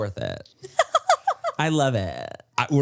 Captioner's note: laughs